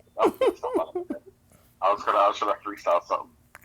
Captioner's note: laughing